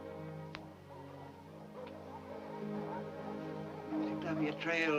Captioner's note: dogs barking